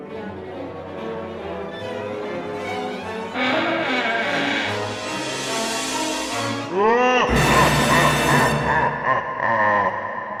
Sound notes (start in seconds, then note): 3.4 drawer creaking; 6.8 devilish laughing